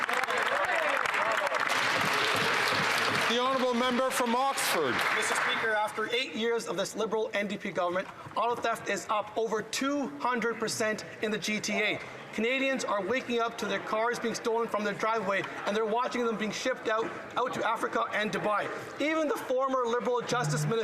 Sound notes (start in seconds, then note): 4.6 some Applause